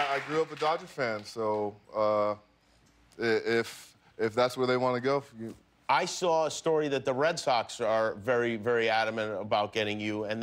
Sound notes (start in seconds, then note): 1.9 applause